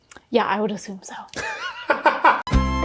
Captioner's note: laughing; upbeat music